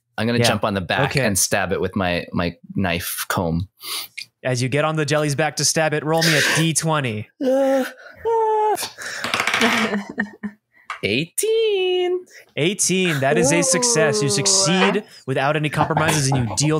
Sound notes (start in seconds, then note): 9.2 yells, unsure of the roll; 12.2 gleefully